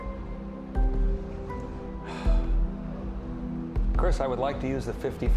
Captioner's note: sighs